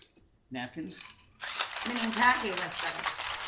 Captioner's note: ice shaking